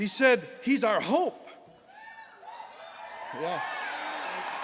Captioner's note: applause